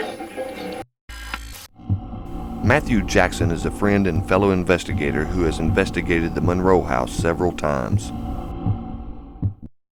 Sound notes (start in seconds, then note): 2.3 static fizzing